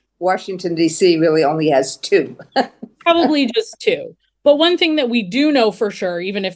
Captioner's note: laughter